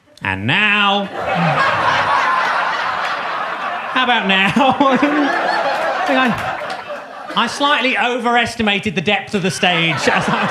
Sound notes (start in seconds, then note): 0.0 audience laughs; 5.2 laughs; 6.0 audience laughs